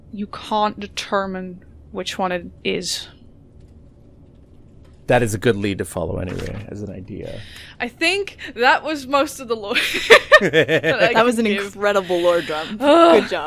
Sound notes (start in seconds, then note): 9.7 laughter